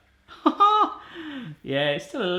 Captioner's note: laughs